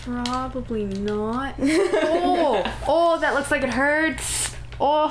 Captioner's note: laughter